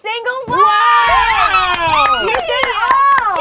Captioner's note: group cheers